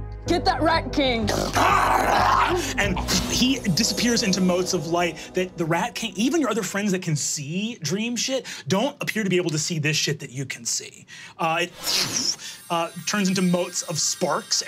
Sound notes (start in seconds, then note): 1.3 growls; 11.8 blows air